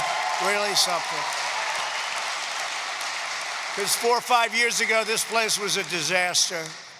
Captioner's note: applause